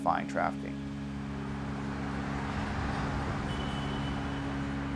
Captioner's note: traffic humming